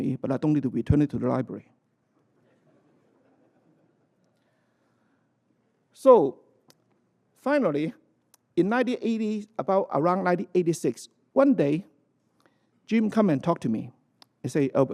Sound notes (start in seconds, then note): 2.2 laughter